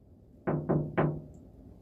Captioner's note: knocks